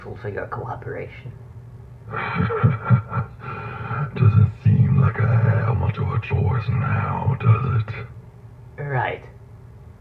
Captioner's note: chuckles